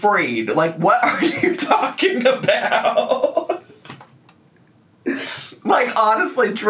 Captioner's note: laughs